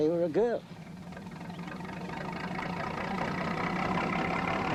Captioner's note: train rumbling